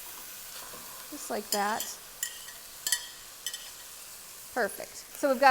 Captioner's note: utensil tapping